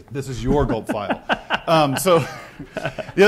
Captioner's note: laugh